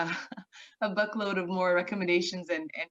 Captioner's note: chuckling